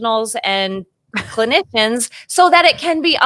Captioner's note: chuckles